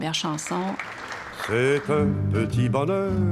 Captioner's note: shouts and applause